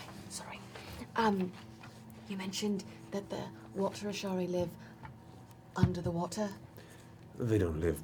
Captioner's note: quietly